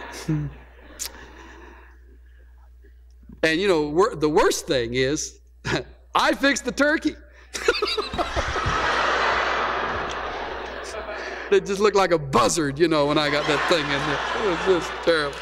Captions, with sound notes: And you know wo . . . the worst thing is, I fixed the turkey! (laughter) It just looked like a buzzard, you know, when I (laughter) got that thing in there. It was just terrible.